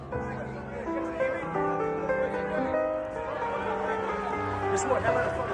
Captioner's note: gentle piano music; crowd shouting